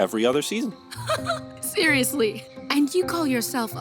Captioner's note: giggles